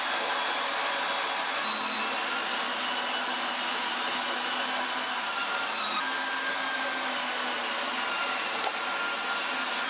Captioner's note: machine whirring